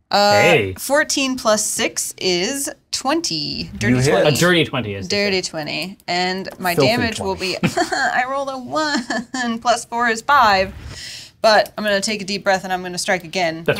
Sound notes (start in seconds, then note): 8.1 whimpers